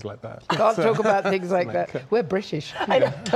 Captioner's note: laughter